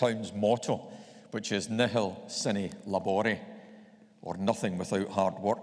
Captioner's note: speaking in foreign language